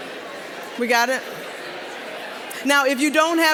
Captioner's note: general chatter